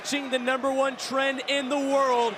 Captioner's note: crowd cheering